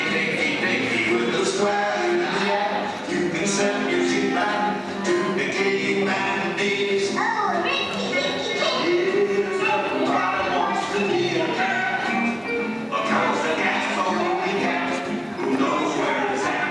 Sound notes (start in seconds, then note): none